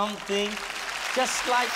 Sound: applause

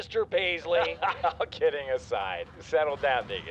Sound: laughing

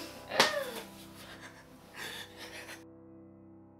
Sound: cries like a baby

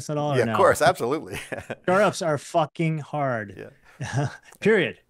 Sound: laughs

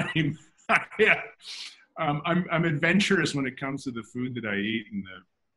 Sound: laughs

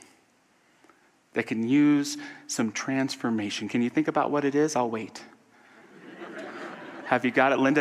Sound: audience laughter

